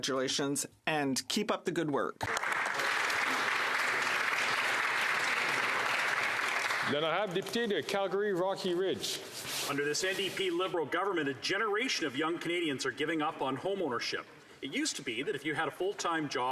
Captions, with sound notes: IN RECOGNITION OF HER VOLUNTEER WORK. ELLA ROSE, ALL MY CONGRATULATIONS AND KEEP UP THE GOOD WORK. [Applause] >> UNDER THIS LIBERAL-NDP